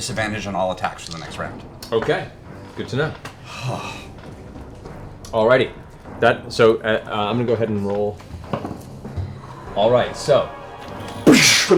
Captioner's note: gunshot